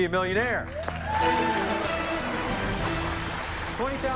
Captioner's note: cheers and applause; dramatic musical flourish